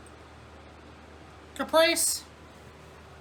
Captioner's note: normal voice